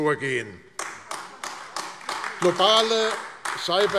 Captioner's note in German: Beifall AfD